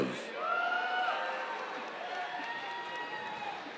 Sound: cheers

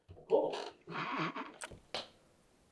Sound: Herculano laughs

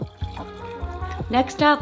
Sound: water trickling; bright music

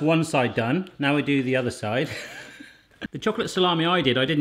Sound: laughing

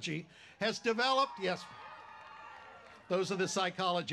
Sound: cheering

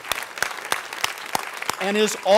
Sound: cheering

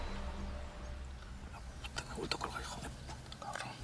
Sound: whispering

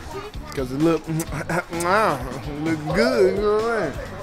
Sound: lip smacking

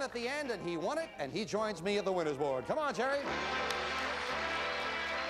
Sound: audience applauding

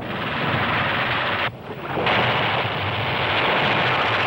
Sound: gunfire thundering

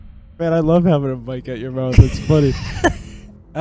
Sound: guilty laughing

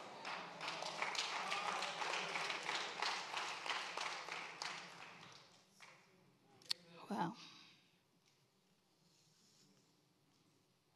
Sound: congregation applauds

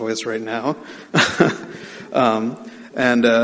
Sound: laughing

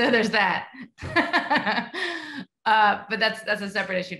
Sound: laughs

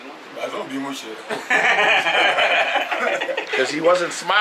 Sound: group laughing

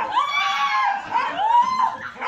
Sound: screaming

